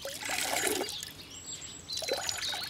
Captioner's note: birds chirping